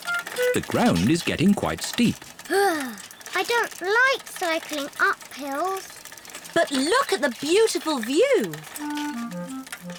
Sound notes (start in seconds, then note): 2.5 groans